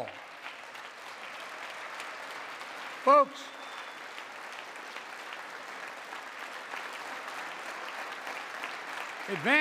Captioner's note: applause